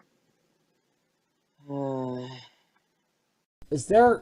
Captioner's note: sigh